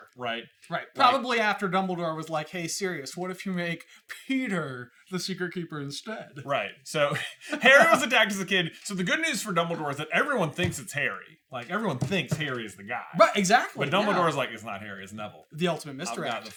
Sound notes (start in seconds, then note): 7.1 laughs